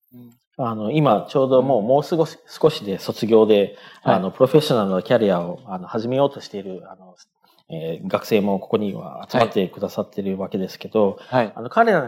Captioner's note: speaking japanese